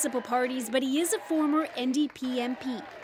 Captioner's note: applause